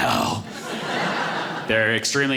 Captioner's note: audience laughing